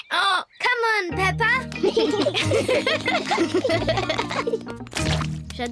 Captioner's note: brays; both giggle